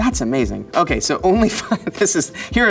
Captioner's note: chuckles